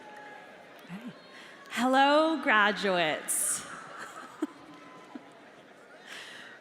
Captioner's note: chuckles